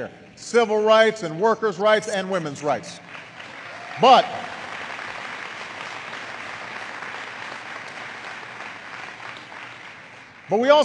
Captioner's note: applause